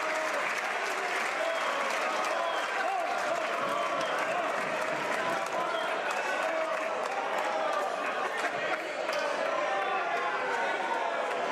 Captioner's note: some Applause